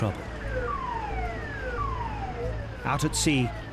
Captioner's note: siren blares